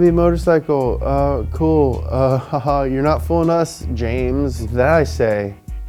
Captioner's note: chuckles